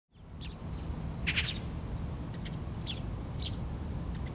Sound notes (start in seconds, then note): 1.2 birds chirping